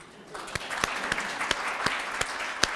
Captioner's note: applause